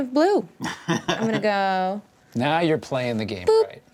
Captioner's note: chuckles